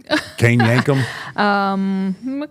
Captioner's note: Michelle laughing